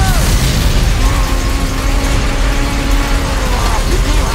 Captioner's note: Kubiko roars, groans